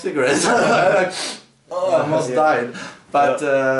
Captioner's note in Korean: 웃음